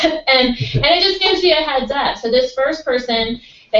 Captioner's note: laugh